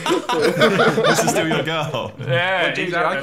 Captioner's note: laughing